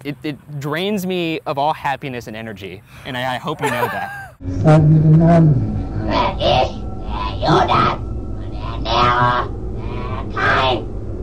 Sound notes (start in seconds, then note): 4.3 speaking German